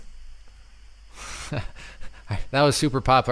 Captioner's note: chuckles